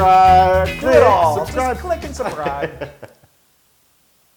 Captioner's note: laugh